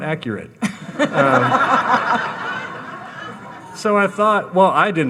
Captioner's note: audience laughing